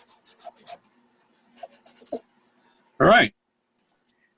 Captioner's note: squeaking